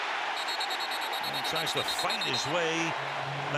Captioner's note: whistle